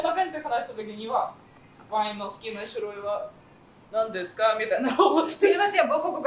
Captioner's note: laughing